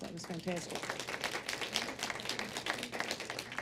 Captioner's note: applause